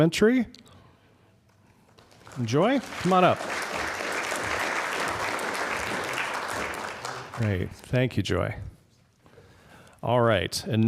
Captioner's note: applause